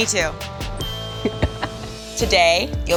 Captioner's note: bright dinging